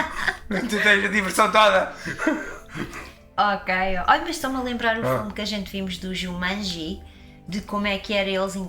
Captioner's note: laughs